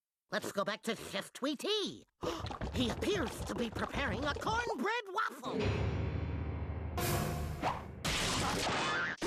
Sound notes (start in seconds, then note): 2.2 gasping